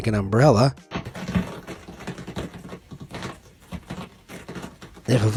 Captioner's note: water drops clatters